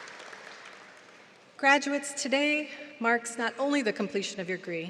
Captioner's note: applause